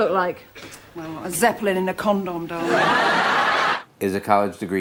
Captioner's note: laughter